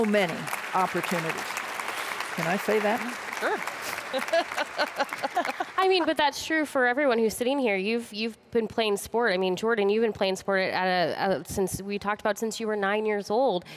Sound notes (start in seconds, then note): 1.6 applause; 3.8 laughter